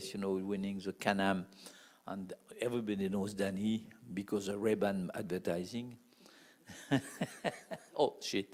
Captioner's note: laugh